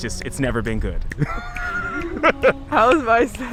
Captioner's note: laughing